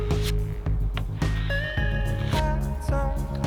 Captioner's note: buffing sound